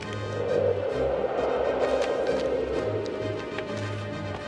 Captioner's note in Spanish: viento silbando